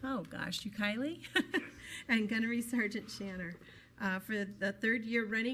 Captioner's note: laughs